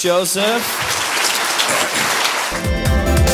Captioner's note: audience applause